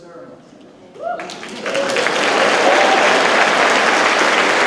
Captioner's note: audience claps